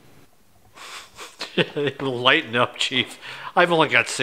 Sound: laughs

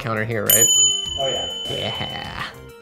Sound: bell dings; voiceover

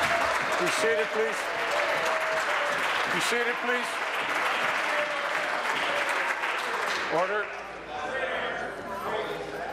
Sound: applause

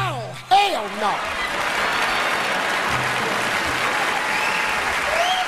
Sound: audience laughs

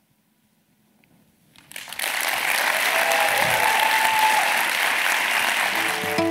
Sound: applause

